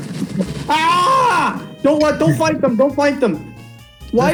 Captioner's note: screams